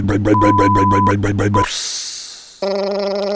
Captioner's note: backup beeper; hiss